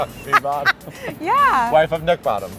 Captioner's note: laughing